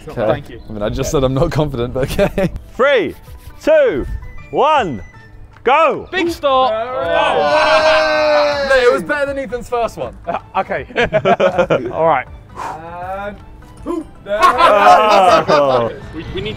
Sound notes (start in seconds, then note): 10.0 men laughing; 13.8 men laughing